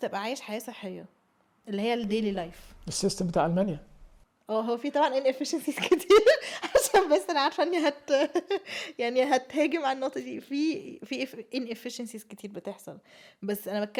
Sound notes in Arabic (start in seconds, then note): 5.8 ضحك